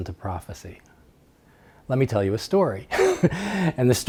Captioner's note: laughs